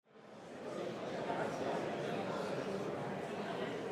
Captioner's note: audience chattering